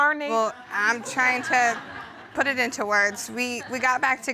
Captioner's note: audience laughs